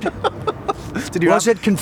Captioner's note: laughing